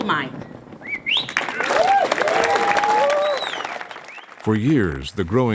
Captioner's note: applause